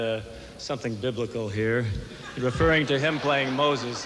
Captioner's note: applause